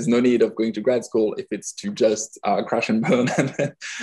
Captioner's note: laughing